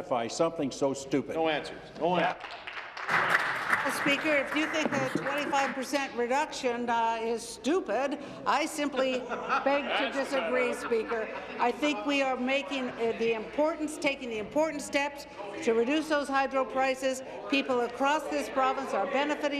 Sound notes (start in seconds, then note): 6.8 applause